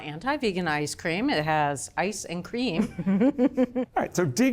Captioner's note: laughs